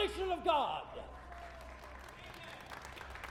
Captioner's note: crowd clapping